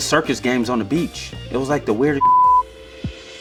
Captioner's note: beep